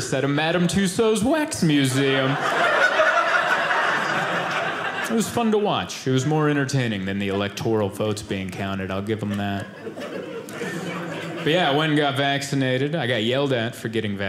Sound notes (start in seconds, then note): 1.6 audience laughing